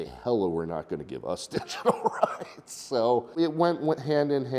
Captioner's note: chuckles